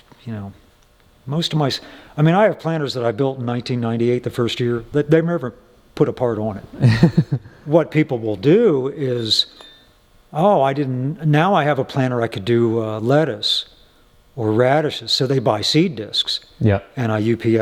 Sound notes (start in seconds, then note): 6.8 laughing